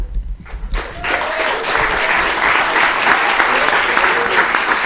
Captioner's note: applause, cheering